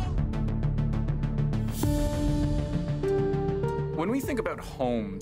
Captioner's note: screaming